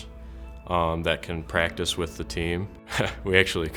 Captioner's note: laughs